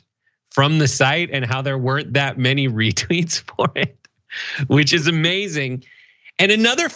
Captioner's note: laugh